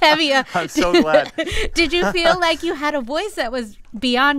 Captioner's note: laughter